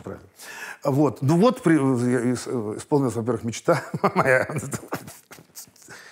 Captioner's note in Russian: смеется